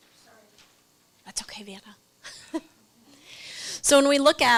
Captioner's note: laughs